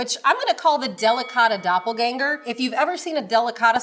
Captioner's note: bell dings